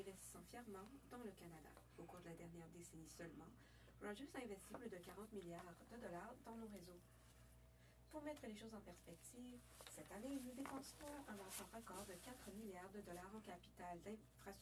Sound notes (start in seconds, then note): 4.0 speaking French